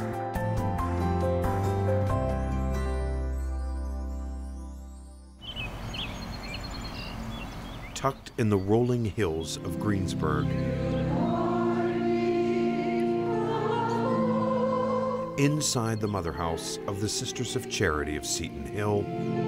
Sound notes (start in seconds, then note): 0.0 gentle music; 5.4 birds chirping